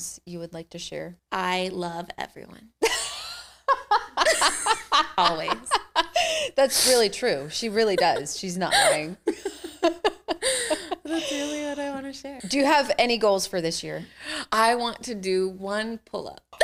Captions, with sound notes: you would like to share? I love everyone. (Laughing) Always. That's really true. She really does. She's not lying. That's really what I wanna share. Do you have any goals for this year? I want to do one pull up.